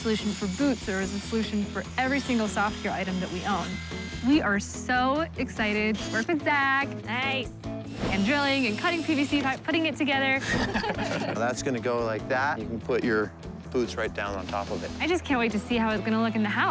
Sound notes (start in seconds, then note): 10.4 both laughing